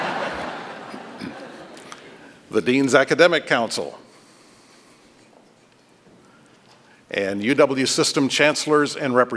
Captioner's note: laughter